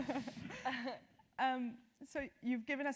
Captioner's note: laugh